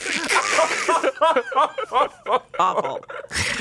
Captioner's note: imitates cracking; everyone laughs